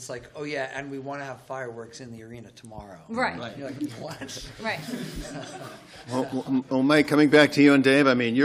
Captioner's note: laughter